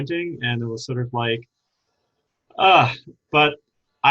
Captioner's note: sighs